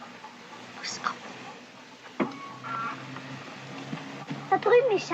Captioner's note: whispers